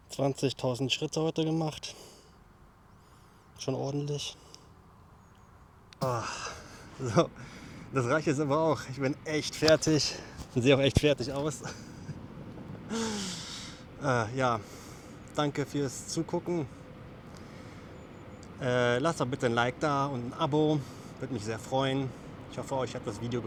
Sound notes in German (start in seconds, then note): 12.8 seufzt; 12.9 japst